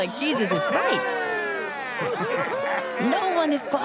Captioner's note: cheering